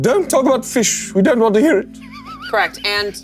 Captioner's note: Koda laughing